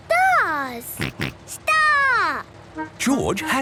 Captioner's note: snort